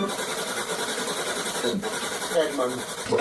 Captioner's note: strange voice from SB-7